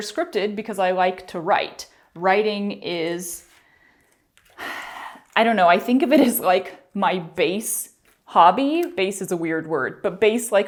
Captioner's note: sigh